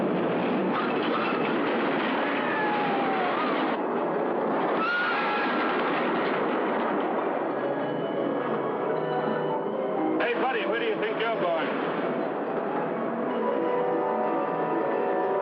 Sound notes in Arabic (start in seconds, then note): 4.7 صراخ